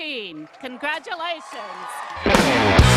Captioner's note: applause